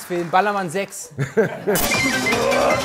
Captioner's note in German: Lachen; Schnelle Musik